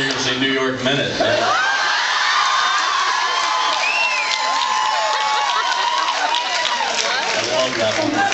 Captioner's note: screams and laughs